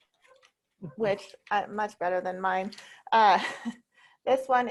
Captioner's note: chuckles